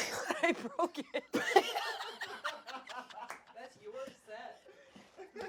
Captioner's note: everyone laughs